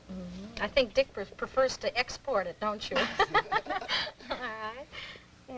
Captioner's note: laughter